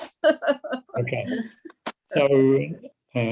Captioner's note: chuckles